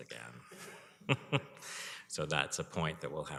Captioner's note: chuckles